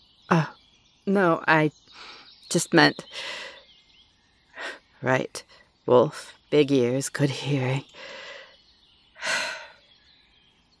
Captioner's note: sighs